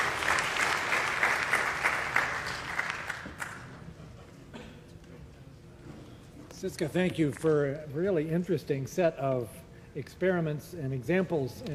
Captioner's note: applause